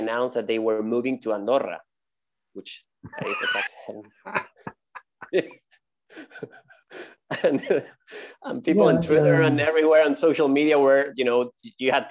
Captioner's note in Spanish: Risas